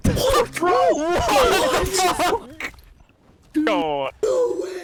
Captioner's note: collective disbelief